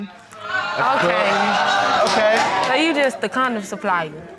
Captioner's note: courtroom exclaiming